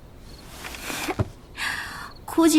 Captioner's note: sighing